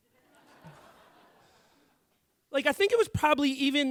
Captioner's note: audience laughing